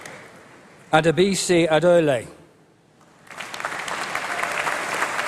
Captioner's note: applause